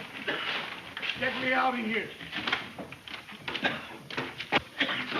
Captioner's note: coughing